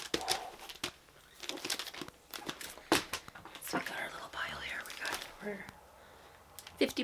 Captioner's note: thump